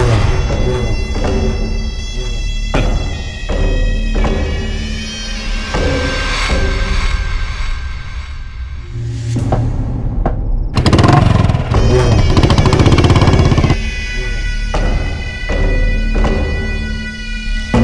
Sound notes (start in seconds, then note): 2.7 chuckles